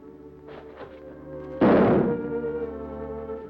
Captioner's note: gunshot